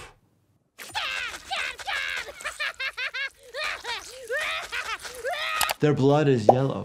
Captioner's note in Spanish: personaje gritando y riendo